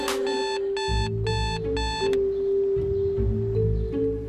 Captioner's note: morning alarm beeps